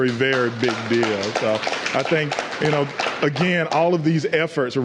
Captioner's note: applause